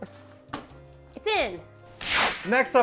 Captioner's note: slap